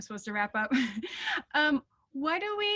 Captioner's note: laughing